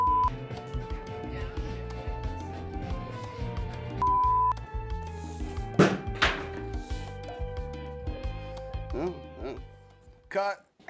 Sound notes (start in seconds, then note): 0.3 upbeat music; 5.7 leg slams